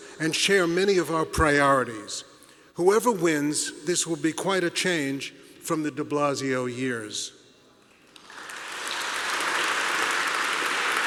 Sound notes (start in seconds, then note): 8.2 applause